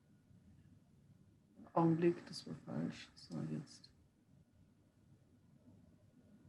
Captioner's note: foreign language